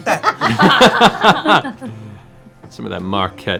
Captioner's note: laughter